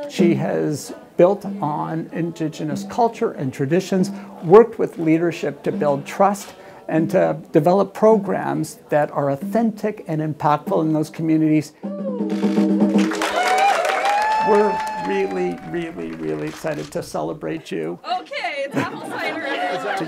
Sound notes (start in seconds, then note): 13.0 cheering